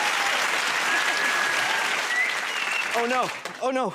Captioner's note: whistles